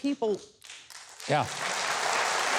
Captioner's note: audience applauds